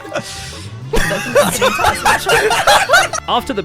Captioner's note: mic-peakingly loud laughter